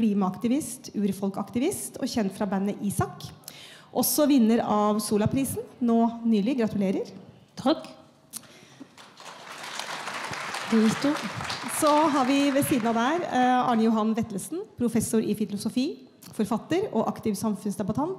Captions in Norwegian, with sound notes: klimaaktivist, urfolkaktivist og kjent fra bandet Isak. Også vinner av Zola-prisen nå nylig. Gratulerer. Takk. (Applaus) Så har vi ved siden av oss Arne Johan Vetlsesen. Professor i filosofi, forfatter og aktiv samfunnsdebattant.